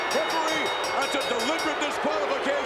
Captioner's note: ring bell clanging